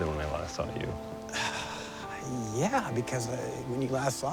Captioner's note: sighs